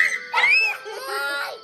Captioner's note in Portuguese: Gritos